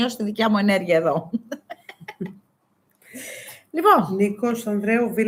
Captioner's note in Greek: γέλια